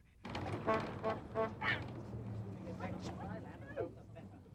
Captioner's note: horn honking